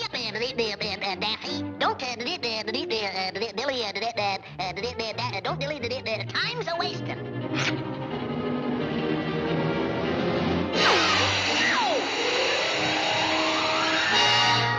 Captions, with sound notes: - Hurry up, Da-Da-Daffy! Don't ba-da-dee-ba-dilly, ah. Da-da-don't dilly-da-da... Time's a-wastin'! (suspenseful music) (air whooshing)